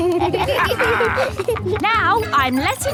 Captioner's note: kids and captain dog laughing